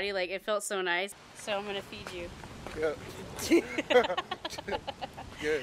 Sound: both laugh

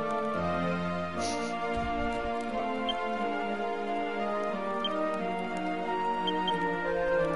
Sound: snickers

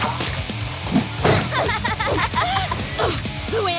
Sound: laughing

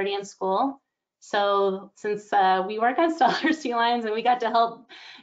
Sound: giggles

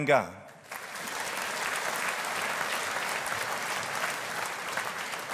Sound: audience applauding

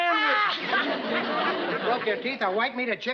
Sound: laughter

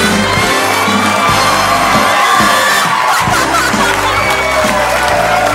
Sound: audience cheers

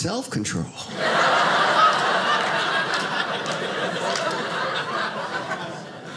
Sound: audience laughing

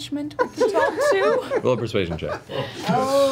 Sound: all laugh

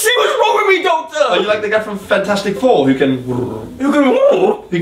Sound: pigeon sound

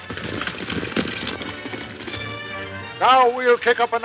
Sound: horse galloping

